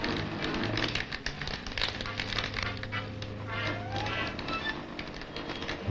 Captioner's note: machine sparking and clacking